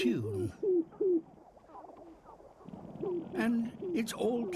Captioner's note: clucking, rattling